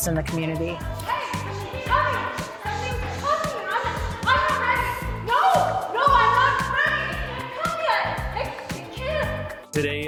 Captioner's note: shouting